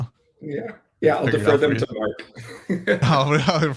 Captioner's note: laughs